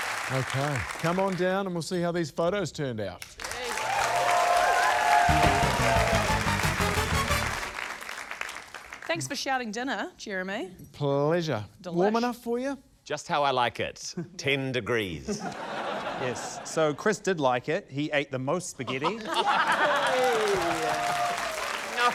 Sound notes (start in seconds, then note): 0.0 cheering, applause; 3.4 cheering, applause; 15.2 laughter; 18.9 laughter, applause